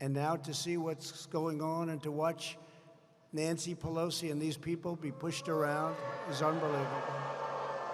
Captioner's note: applause